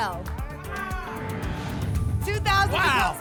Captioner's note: whoosh